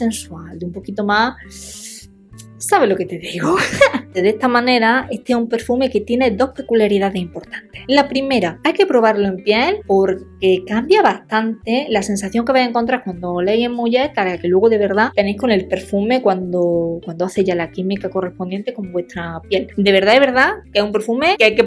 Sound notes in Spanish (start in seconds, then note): 3.5 risas